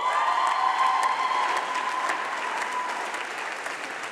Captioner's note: applause